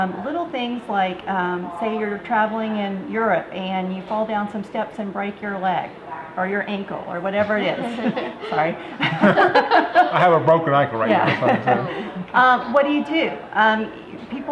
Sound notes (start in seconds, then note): 7.8 everyone laughs